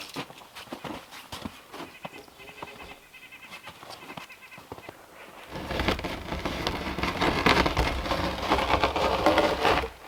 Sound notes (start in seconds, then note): 5.3 log scraping